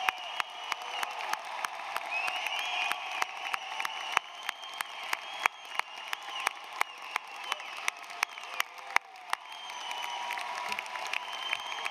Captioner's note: applause